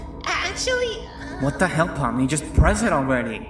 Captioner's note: ahmmmm